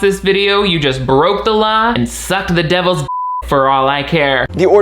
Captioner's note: beep